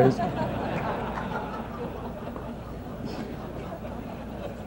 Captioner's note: laughter